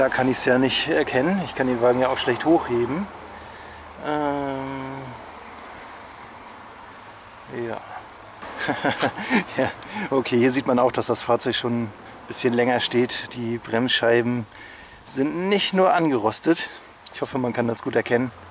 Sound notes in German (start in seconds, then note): 8.4 Lach